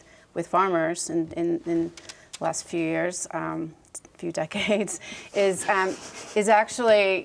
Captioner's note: chuckles